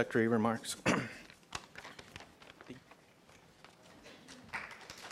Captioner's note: cough; applause